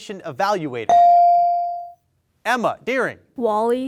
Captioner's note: bell dings